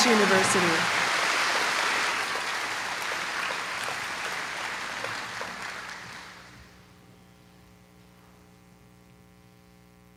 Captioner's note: applause